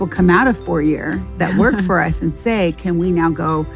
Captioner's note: laughs